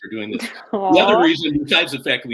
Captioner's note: laughter